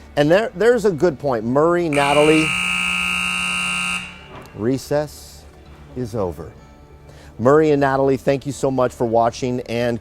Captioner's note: buzzer sounds